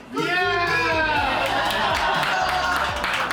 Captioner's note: laughs